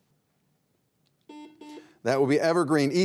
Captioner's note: beep